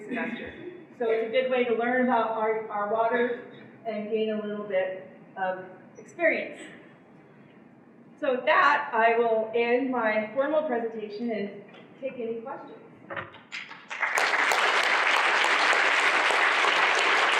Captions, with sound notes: semester. So it's a good way to learn about our waters and gain a little bit of experience. So with that, I will end my formal presentation and take any questions. [APPLAUSE]